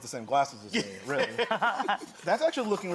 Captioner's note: laughing